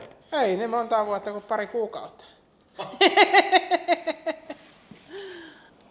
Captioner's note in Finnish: naurua